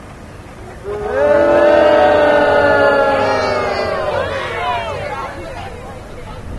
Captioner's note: audience boos